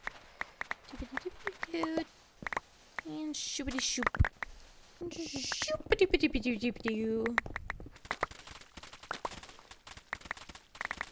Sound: sing song and item collection sounds

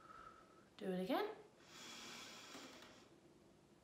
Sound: exhales; inhales

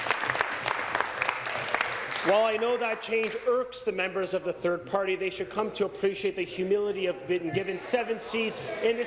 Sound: applause

